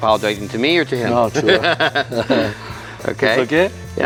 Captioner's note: both laughing